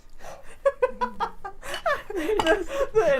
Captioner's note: laughing